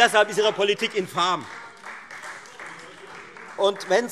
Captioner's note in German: Beifall Freie Demokraten